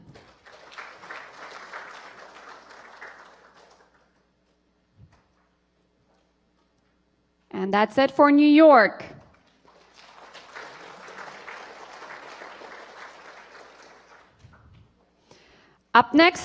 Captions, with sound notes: STANLEY B ECHL BERGESS FROM NORTH CAROLINA. HOLLAND STEWART, NORTH CAROLINA. [APPLAUSE] AND THAT CONCLUDES NORTH CAROLINA.